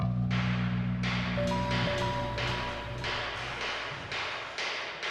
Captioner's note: loud banging